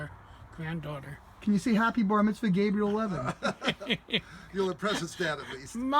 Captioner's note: laughter